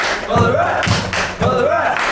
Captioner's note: clapping